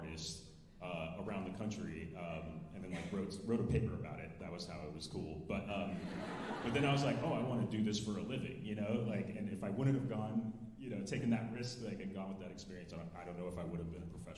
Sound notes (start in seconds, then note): 6.0 alumni laughing